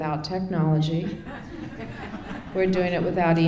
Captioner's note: laughter